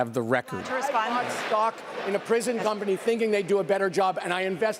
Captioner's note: none